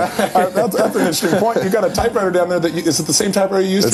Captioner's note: laughter